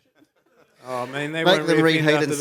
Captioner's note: laughter